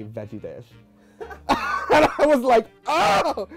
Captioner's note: laughing; producer laughs